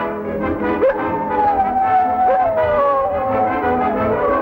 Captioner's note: howling